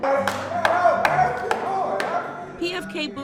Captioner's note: clapping